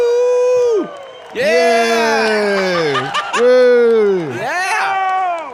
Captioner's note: laughing